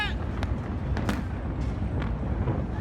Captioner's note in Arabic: يصرخ المتفرج